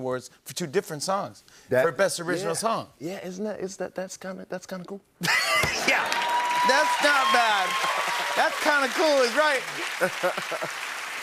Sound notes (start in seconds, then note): 5.2 laughter; 5.6 cheers and applause; 9.7 laughs